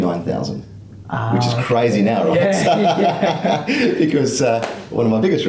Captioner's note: both laugh